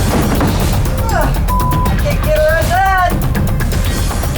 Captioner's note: beeps; tense music